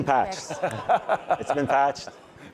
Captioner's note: chuckling; laughing; audience laughing